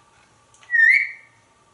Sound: whistles

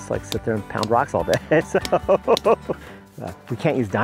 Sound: laughs

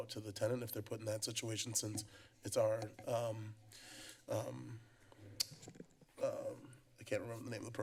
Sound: clicks tongue

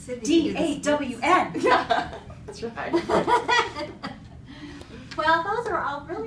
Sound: chuckling

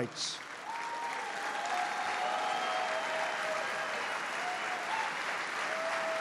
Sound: applause

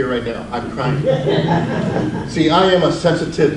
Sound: audience laughs

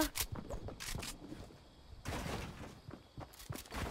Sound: guns cocking

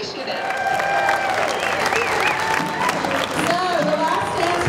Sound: cheering; clapping

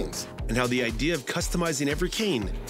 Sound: voiceover

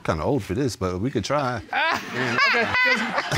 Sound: laughing

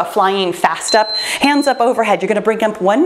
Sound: timer beeps

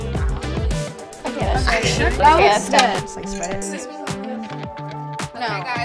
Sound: upbeat music; group chattering

